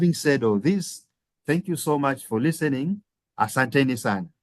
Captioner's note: speaking Swahili